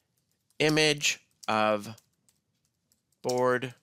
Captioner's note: typing